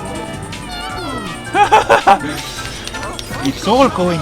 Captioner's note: laughter